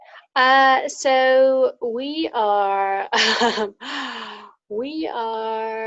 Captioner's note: laughs